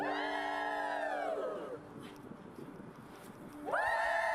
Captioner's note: crowd cheering